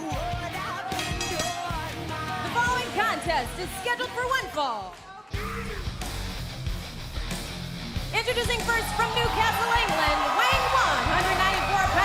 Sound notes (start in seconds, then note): 0.9 bell ringing